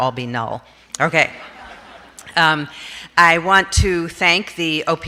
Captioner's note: audience laughs